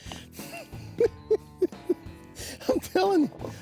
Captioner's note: chuckling